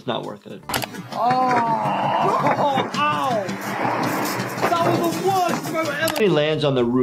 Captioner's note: exclaiming